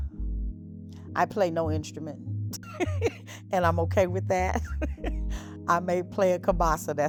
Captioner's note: laughs